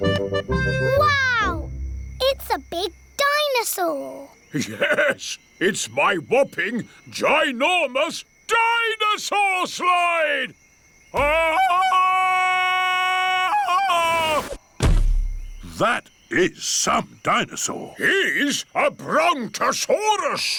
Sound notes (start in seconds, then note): 11.1 ululating